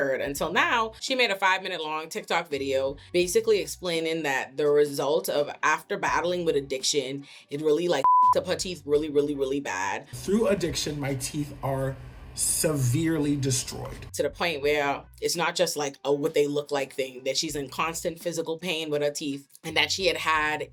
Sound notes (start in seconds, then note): 8.0 beep